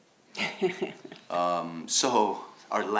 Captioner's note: laughs